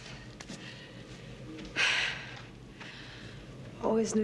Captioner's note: heavy sigh